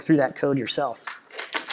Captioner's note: applause